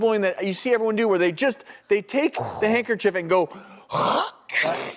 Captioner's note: sneeze